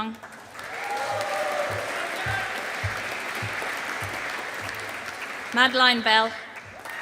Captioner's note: audience applauding